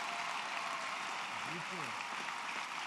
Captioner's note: applause